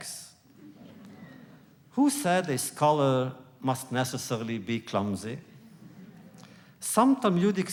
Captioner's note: laughter